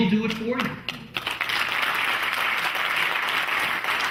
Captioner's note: clapping